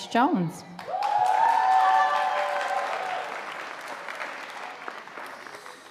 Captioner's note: audience applauding